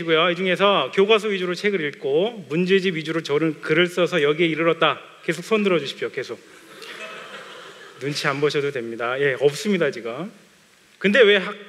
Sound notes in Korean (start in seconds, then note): 6.8 웃음